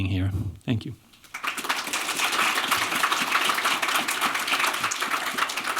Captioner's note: applause